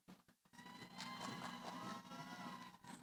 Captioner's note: cheering